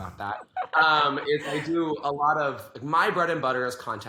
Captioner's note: laughs